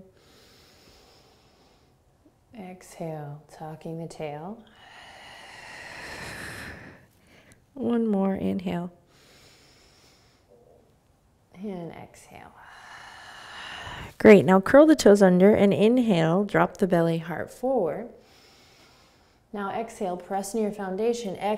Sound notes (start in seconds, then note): 0.1 inhaling; 4.7 exhaling; 9.1 inhaling; 12.6 exhaling; 18.2 inhaling